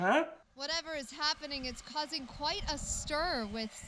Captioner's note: over tv